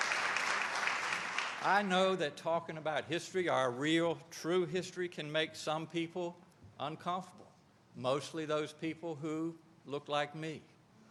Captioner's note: applause